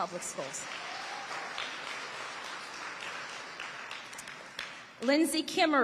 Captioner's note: audience applauding